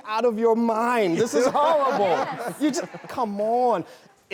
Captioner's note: everyone laughs